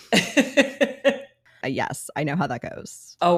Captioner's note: laughing